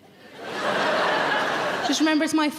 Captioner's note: audience laughing